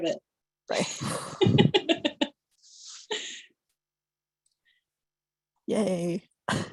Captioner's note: laughter